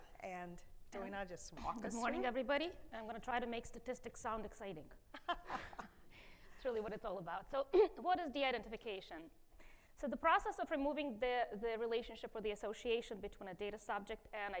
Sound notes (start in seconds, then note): 5.2 chuckles